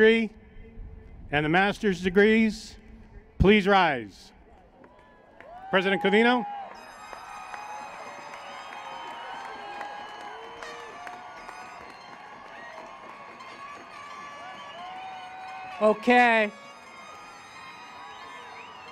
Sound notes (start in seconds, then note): 4.4 cheers; 7.2 cheering; 18.2 cheering, Blowhorns